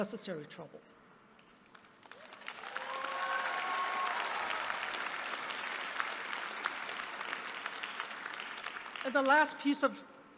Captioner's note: applause